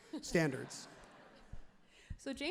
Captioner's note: crowd and laughs happily